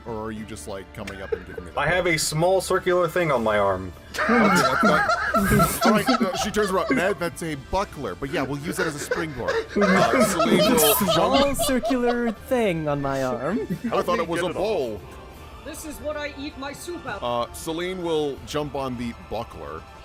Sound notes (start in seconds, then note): 4.1 laughter; 8.4 hyperventilating Laughter